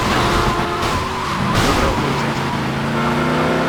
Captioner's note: sirens